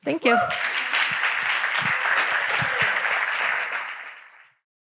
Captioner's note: audience applauding